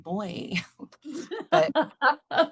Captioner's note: laughter